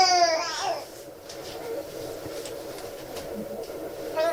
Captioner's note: baby crying